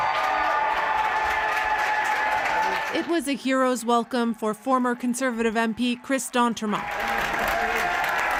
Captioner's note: applause